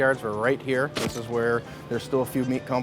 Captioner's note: camera shutter